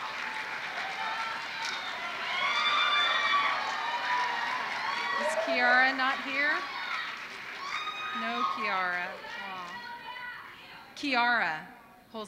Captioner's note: applause